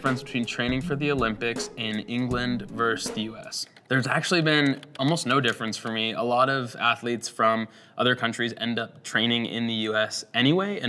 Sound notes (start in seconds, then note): 0.0 upbeat music; 4.4 keyboard taps